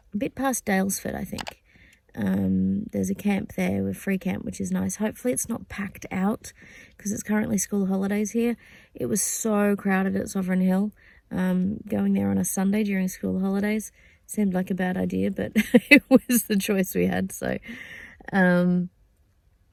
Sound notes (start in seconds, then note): 15.6 laughing